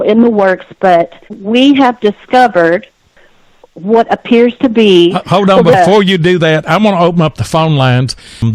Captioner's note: laughter